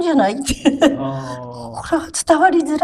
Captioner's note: laughs